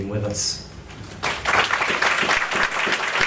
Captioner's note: applause